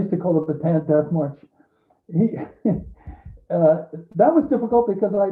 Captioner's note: chuckles